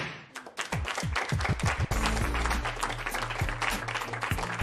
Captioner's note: applause